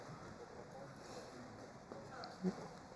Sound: laughter

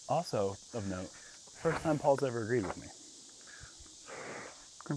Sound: none

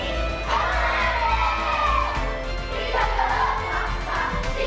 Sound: kids cheering; kids chanting

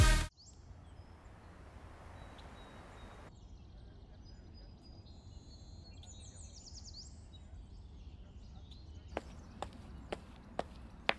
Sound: birds

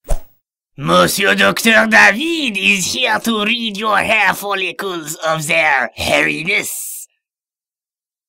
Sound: in a bad french accent

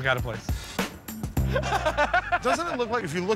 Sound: laughter

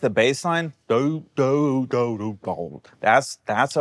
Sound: imitates bass guitar

